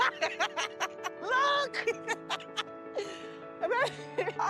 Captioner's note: laughs